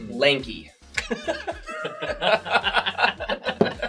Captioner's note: all laugh